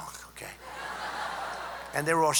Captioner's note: laughter